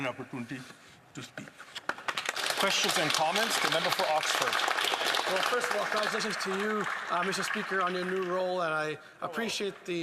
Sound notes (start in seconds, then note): 6.4 some Applause